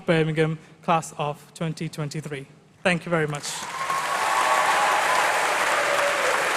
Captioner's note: applause